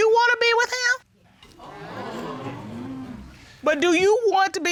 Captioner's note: audience exclaims